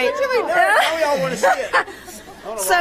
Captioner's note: laughter